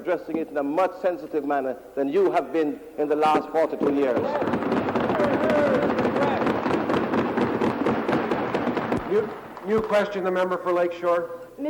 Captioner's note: some APPLAUSE